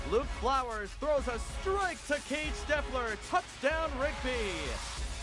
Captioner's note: cheering, then music